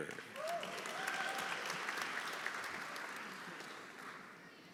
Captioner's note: audience applauding; audience cheering